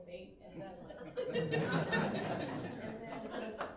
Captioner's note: laughing